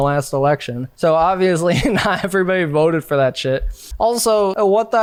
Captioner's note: chuckles